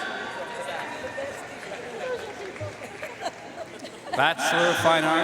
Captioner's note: audience cheering and applauding